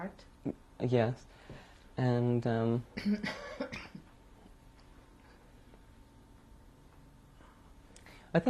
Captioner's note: pauses for 6 seconds